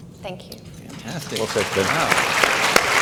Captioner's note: audience clapping